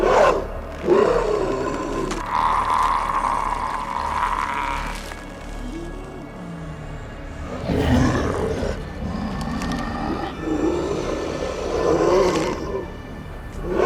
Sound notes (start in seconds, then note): 2.2 Terry gurgling; 7.7 Terry growling